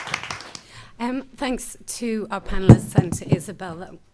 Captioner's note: applause